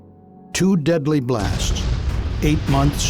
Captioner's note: sound of explosion